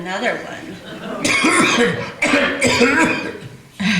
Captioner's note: continues to violently cough